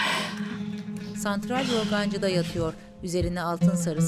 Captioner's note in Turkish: Nefes sesi